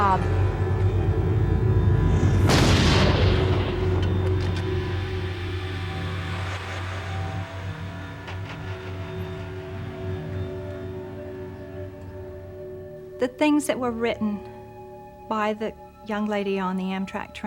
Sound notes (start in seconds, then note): 2.3 gunshot